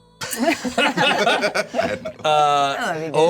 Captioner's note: laughter